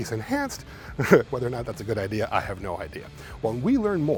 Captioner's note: laughs